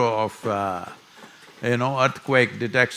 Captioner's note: none